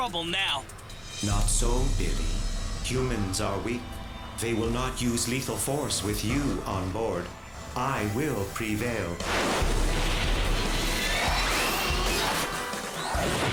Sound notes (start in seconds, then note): 10.9 jets whoosh